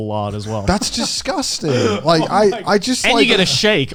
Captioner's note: chuckling